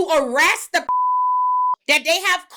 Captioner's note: beep